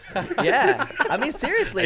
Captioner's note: men laughing